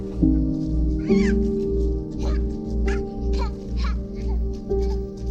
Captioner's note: playful laughter